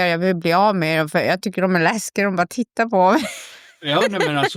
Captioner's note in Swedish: skratt